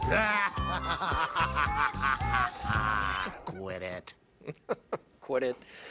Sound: laughter

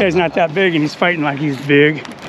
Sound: laughing

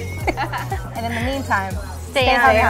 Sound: laughter

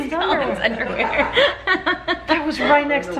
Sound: laughing

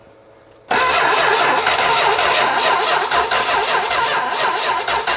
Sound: ignition stutters

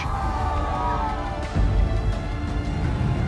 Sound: cheering

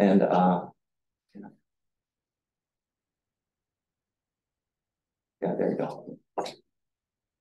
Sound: pause

